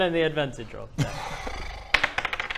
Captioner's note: shattered sigh